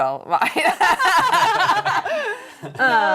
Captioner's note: laughing